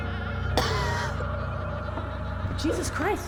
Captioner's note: Claire coughs